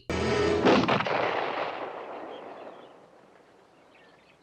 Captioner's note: gunshot